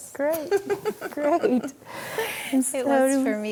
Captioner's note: laughs